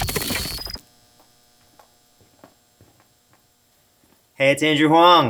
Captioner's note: glitchy crackling; footsteps approaching camera